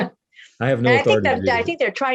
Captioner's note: laughing